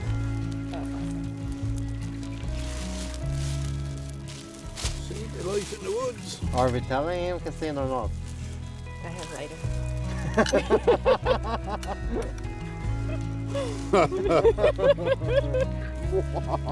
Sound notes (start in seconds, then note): 10.2 laugh; 12.4 gentle music; 13.6 all laugh